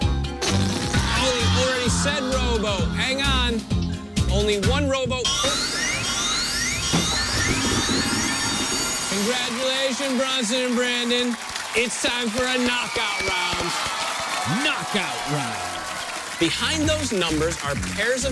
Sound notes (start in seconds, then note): 0.4 farting sound; 5.2 alarm sounding